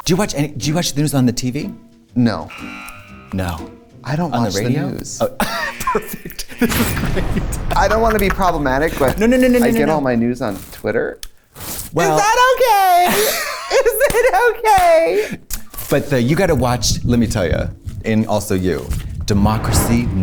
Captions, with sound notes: -Do you watch the news on the TV? -No. -[buzzer] -No. -I don't--I don't watch the news. -On the radio? -Oh. [laughing] Perfect. This is great. -I don't wanna be problematic, but... No, no, no, no. -Well-- -Is that okay? Is it okay? But you gotta watch... And...